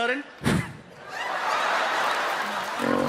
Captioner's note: puffing; laughter